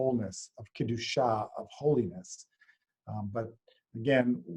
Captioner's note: hebrew